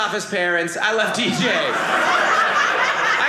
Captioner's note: audience laughing